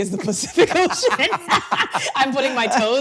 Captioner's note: both laughing